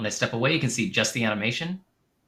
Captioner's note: none